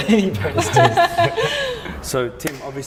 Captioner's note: laughing